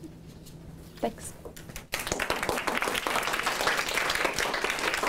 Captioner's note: applause